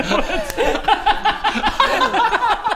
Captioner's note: crazed laughter